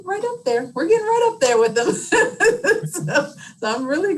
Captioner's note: laughs